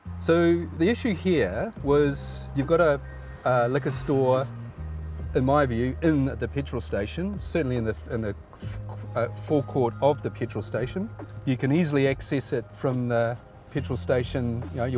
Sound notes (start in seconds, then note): none